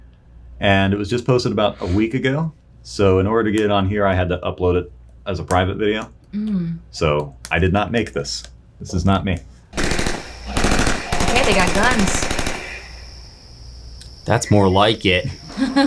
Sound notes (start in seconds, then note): 9.7 gunshots firing; 15.2 laughing